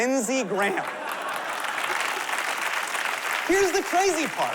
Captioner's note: applause